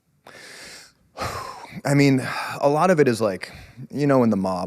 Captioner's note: exhales